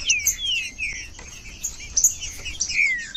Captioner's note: trinca ferro cantando